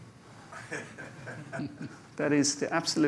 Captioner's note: laughter